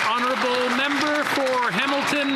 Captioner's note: applause